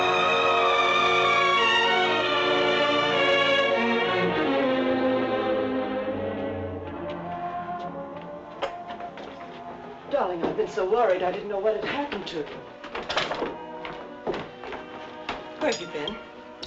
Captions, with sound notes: (suspenseful music) (door rattling) (suspenseful music continues) - Darling, I've been so worried. I didn't know what had happened to you. (footsteps thumping) Where have you been?